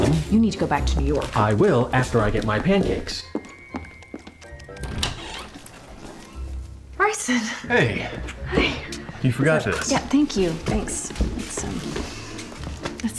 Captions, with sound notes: YOU NEED TO GO BACK TO NEW YORK. I WILL AFTER I GET MY PANCAKES. [FOOTSTEPS, DOOR OPENING] BRYSEN!HEY! YOU FORGOT THIS.THANK YOU... THANKS.